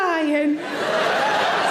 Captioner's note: audience laughing